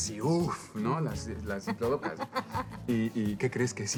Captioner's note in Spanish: Ríe